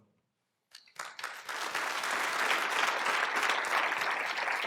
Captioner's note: applause